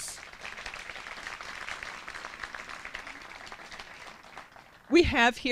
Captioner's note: applause